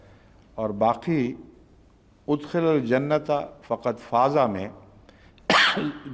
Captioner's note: Arabic